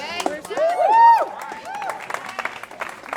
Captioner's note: cheering